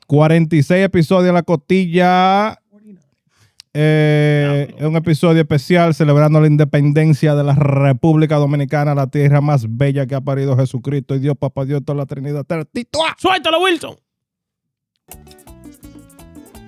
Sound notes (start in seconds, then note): 2.7 speaking In Foreign Language; 4.1 upbeat Music